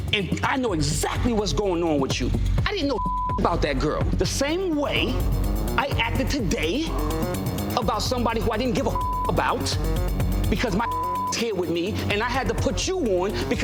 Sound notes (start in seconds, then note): 2.9 beep; 10.6 beep